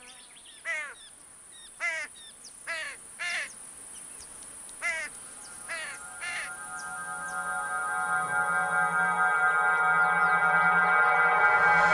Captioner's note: kuş gaklamasi